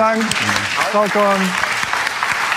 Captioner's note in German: Applaus